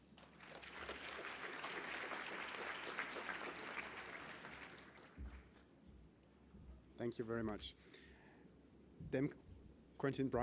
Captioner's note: applause